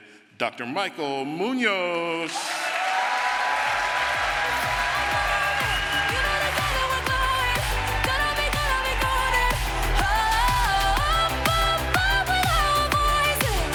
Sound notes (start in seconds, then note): 2.9 crowd applause